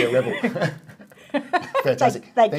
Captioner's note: laughing